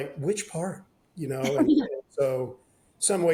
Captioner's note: laughs